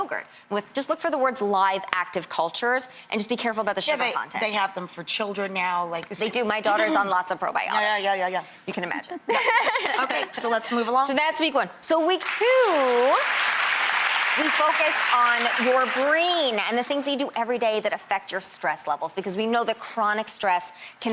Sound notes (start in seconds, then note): 9.3 laughing; 12.2 applauding